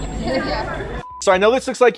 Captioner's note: screen beeping